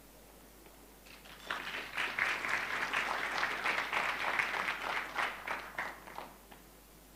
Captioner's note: applause